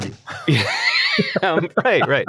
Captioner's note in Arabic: يضحكون